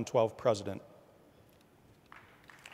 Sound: applause

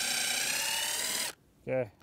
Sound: drill whirs

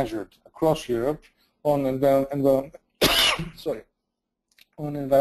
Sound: coughs

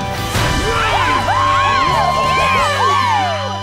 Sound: cheering

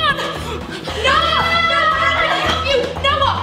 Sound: both yelling; dramatic music

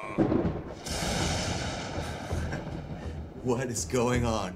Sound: creepy laughter; lightning strikes and thunder claps

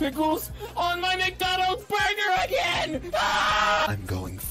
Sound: breath; scream; in low tone

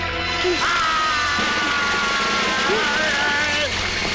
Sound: grunts

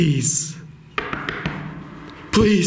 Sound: knocking

